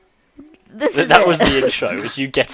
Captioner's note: awkward laughter